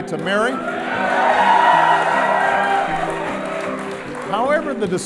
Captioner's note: crowd cheering